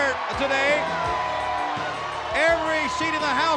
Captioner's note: crowd cheering